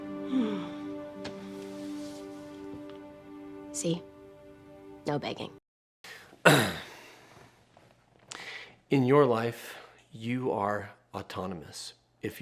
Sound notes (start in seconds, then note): 0.1 sighs; 6.4 clears throat